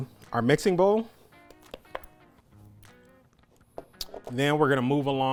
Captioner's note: tapping bowl